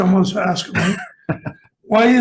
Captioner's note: laughs